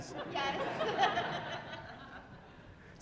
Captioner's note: laughter